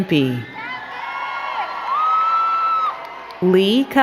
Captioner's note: crowd cheering and clapping